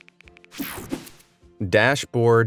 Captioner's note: graphics whoosh